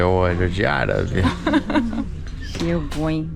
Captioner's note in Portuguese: risos